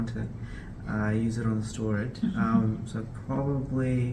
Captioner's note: laughs